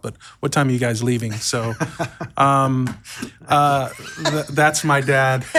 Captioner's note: laugh